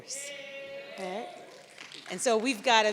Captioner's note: audience cheers